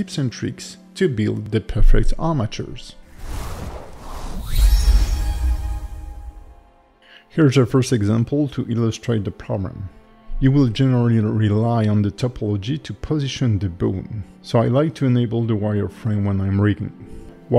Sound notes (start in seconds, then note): 3.0 logo whooshing; 4.5 logo chimes